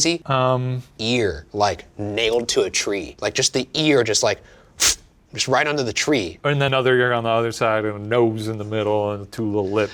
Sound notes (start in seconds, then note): 4.3 mimicking hammer thudding